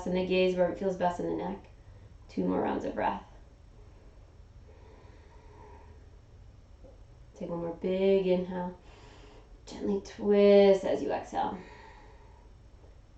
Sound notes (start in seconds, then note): 8.8 inhaling; 11.6 exhaling